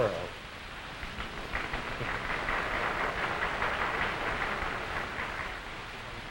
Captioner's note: applause